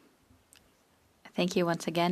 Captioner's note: speaking French